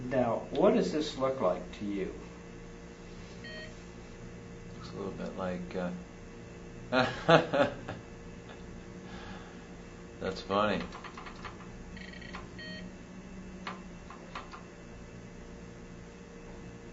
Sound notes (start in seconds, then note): 6.9 laughs; 13.5 keys clacking